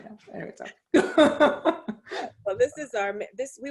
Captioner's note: laughs